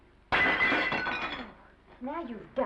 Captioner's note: plate shatters